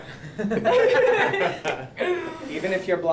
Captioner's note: laughing